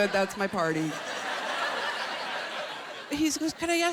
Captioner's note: laughter